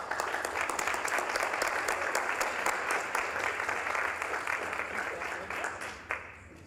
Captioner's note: applause